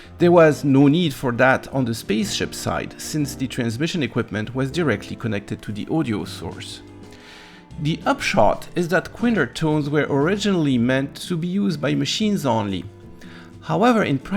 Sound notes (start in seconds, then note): none